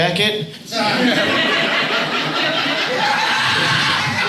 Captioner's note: audience laughs